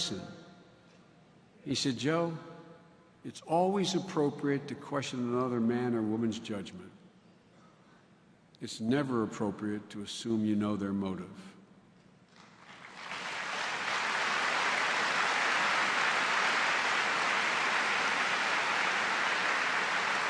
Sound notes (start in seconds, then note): 12.1 applause